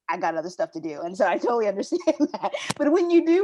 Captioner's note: laughing